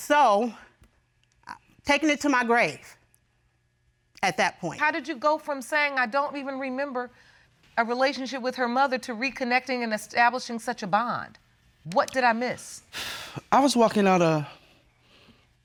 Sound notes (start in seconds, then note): 12.9 exhales